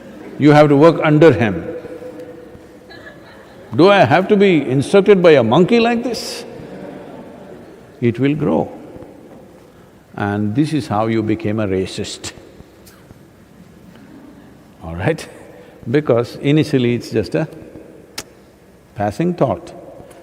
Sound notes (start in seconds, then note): 6.6 laughter; 13.6 laughs